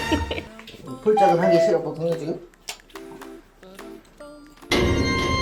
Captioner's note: laugh